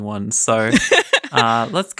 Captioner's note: laughing